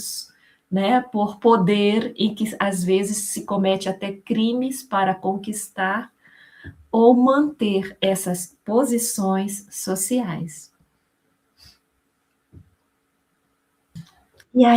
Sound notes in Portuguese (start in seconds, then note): none